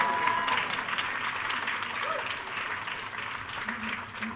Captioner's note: attendees cheering